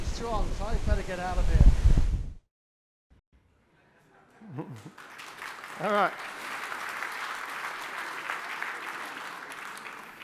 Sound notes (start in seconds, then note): 4.4 chuckles lightly; 4.6 audience applauds